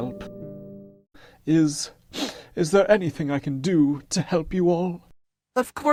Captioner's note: sniffs